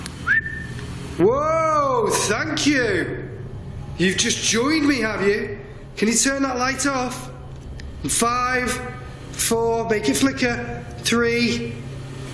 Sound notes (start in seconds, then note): 0.2 whistles